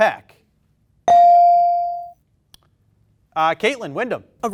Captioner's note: bell dings